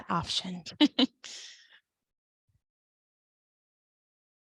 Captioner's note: speaker laughing